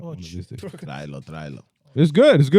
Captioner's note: speaking In Foreign Language